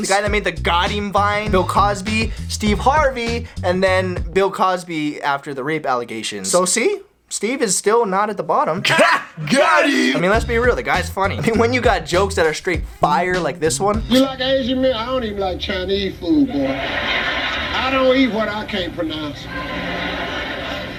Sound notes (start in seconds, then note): 16.7 ruckus laughter; 19.4 more ruckus laughter